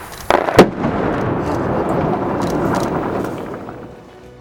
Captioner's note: sound: explosion